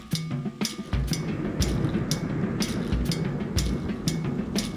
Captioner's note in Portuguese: trovoada; batucada rítmica